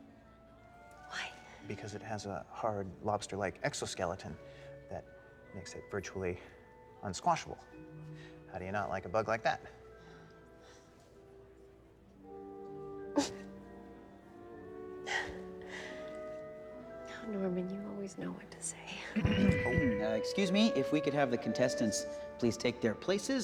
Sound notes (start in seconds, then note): 11.4 giggles; 12.9 sighs